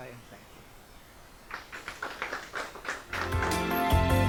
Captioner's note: applause; upbeat keyboard music